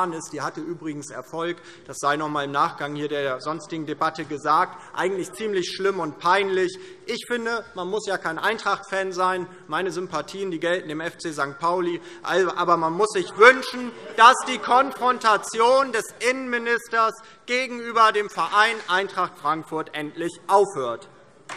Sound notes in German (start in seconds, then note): 12.0 Zurufe: Ui! - Buh! - Weitere Zurufe